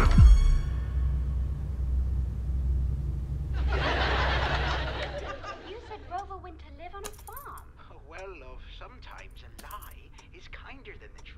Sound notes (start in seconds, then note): 3.5 sitcom playing on TV